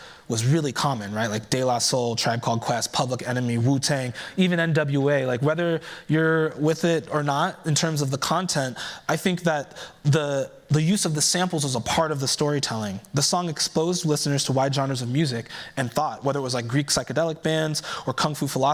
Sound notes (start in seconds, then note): none